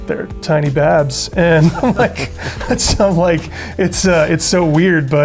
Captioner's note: laughter